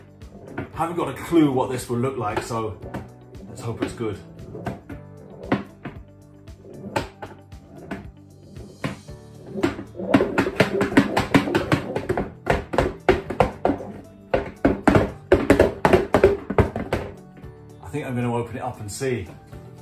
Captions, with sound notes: Haven't got a clue what this will look like, so... let's hope it's good. [rattling] I think I'm gonna open it up and see.